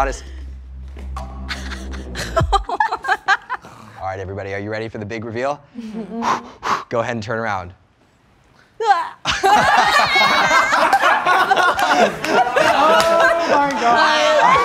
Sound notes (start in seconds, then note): 1.5 girls laughing; 9.2 all laughing